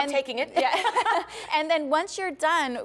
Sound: laughter

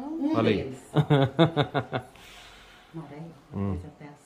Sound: laughs

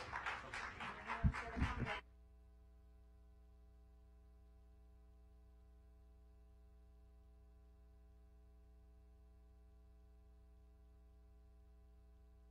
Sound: clapping

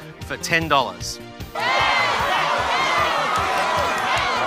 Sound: audience members shouting

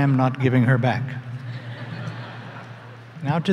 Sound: laughter

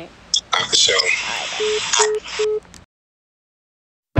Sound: hangs up phone

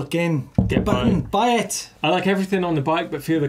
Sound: taps table

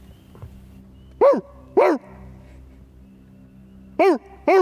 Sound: barking

